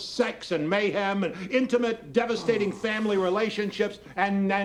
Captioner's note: groans